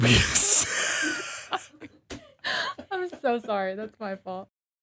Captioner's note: both laugh